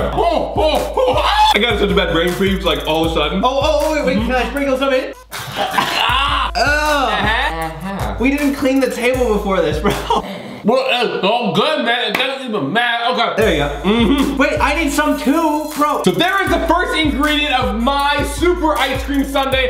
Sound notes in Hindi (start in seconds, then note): 0.3 चिल्लाना; 7.5 बुदबुदाना; 10.3 बुदबुदाना